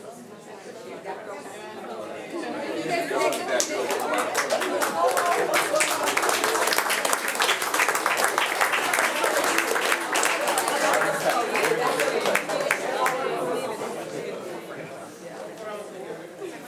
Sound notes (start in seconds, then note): 3.2 attendees and board members applauding